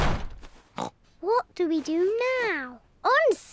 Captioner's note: oinks